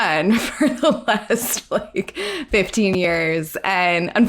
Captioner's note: laughs